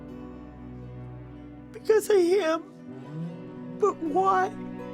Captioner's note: sobs